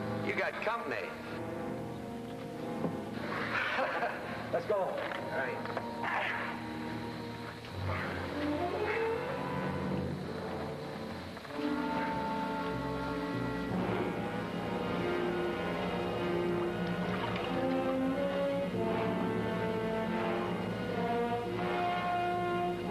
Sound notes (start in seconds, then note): 3.4 chuckles; 7.8 both grunting; 17.8 suspenseful music; 17.8 water trickles